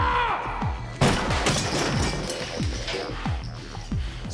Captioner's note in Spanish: Estrépito